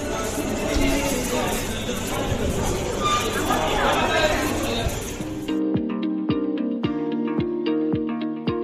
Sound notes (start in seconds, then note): 0.0 people chattering